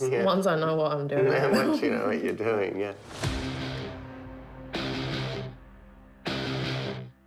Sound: chuckles

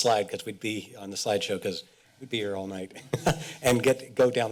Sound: chuckles

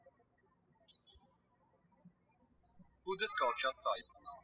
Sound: birds chirping

